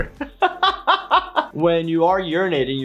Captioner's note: laughs